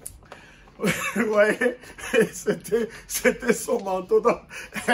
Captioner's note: laughing